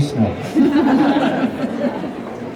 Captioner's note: laughter